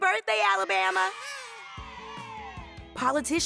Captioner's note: cheering